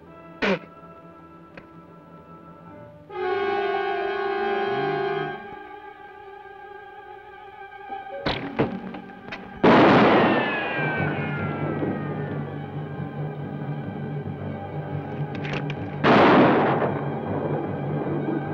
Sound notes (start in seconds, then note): 0.4 spits; 3.1 ominous orchestral music; 8.2 bow twangs; 9.6 gun fires; 9.6 bullet ricochets; 16.0 gun fires